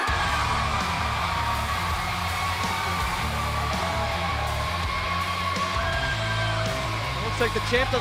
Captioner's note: cheers & applause